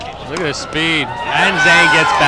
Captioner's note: crowd cheers